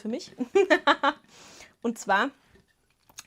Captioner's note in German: Gelächter